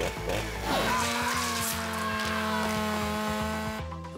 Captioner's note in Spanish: ruido de la sierra; gritos